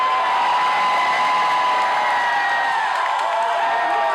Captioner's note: crowd cheers